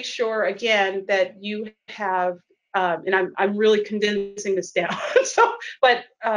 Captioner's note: laughs